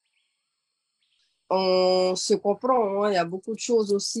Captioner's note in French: En français